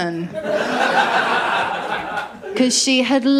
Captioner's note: laughter